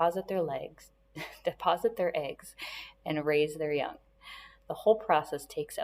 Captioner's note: chuckles